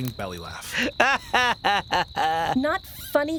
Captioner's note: laughs